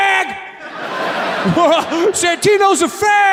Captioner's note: audience laughs